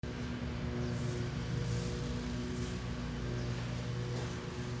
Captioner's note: lawn mower engine roaring